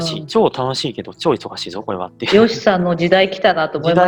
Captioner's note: laugh